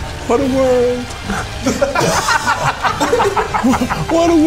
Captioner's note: all laughing